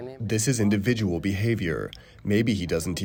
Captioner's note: through translator